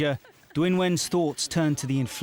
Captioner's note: chuckling